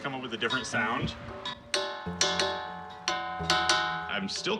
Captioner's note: metallic pinging